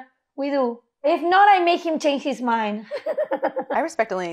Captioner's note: giggles